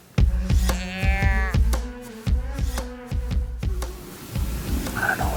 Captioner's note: energetic music; deer calling